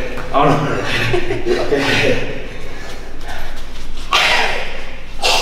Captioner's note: laughter